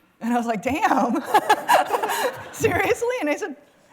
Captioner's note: laughter